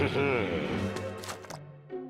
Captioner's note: sandwich squishes